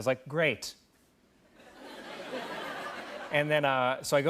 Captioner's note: laughter